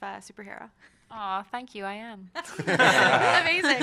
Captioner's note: laughter